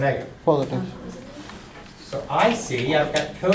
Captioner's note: voiceover